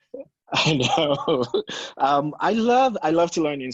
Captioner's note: chuckles